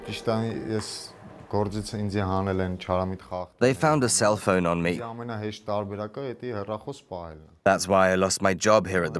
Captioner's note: voiceover